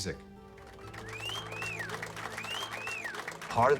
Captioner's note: whistling and applause